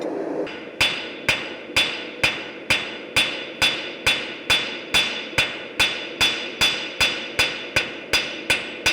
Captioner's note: sharp metallic hammering